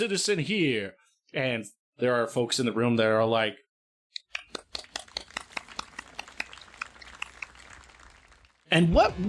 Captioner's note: claps; applause